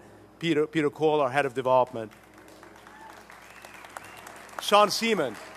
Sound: applause

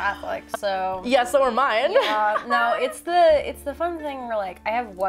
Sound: laugh; laugh

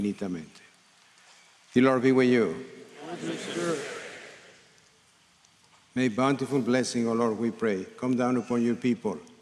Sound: speaking in spanish

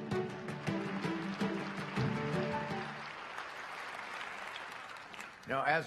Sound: applause

